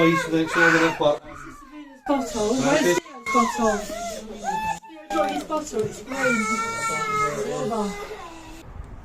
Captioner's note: baby crying